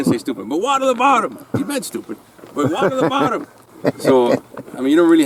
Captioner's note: laughs